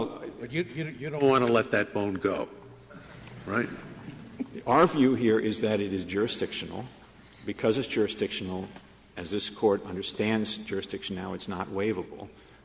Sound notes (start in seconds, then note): 4.3 laughter